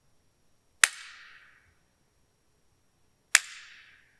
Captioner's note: wood snapping